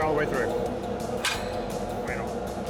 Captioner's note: metal clanging